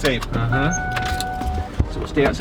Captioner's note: car beeping